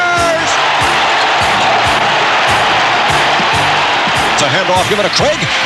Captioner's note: cheering